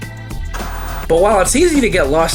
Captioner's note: TV static